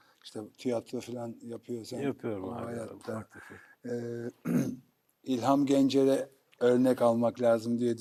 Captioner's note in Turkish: boğazını temizler